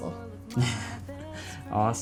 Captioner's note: laughing